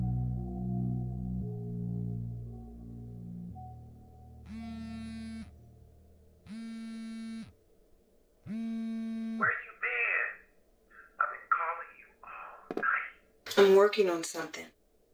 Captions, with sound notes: [Phone vibrating] [Speaker phone] Where you been? [Speaker phone] I been calling you all night. I'm working on something.